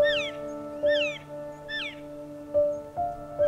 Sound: soft music; elk calls

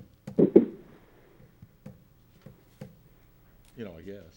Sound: gavel tapping

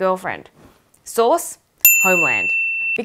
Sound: piercing bip

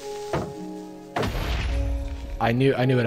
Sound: creeper exploding

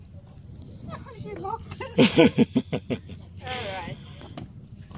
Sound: laughs

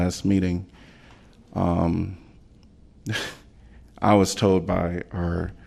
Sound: laughter

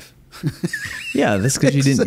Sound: laughs

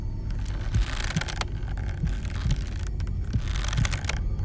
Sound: rope creaking

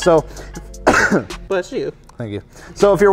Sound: coughs

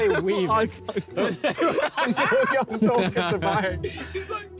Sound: all laughing

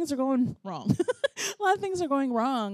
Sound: laughs

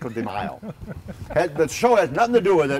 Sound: laughing

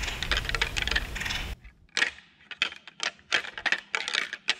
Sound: rattling antlers

